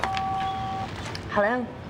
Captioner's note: beeps